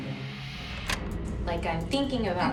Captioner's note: clicking